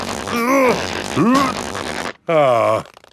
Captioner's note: grunting